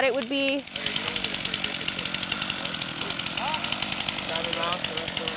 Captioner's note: chainsaw noise